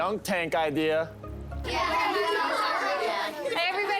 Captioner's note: children chattering